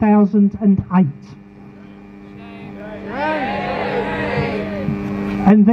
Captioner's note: crowd chants shame